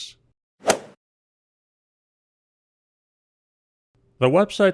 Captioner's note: golf swing sound effect